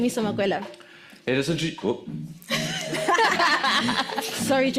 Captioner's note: laughs